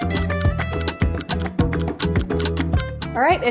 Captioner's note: clock ticking